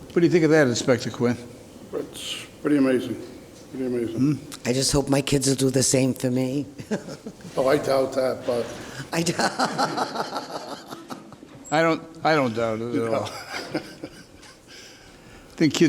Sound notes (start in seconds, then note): 6.8 chuckles; 9.2 laughs; 13.0 chuckles